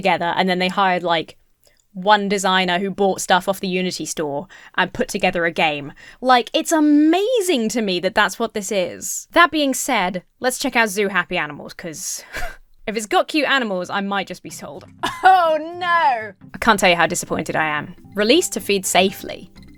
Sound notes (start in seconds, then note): 12.1 chuckles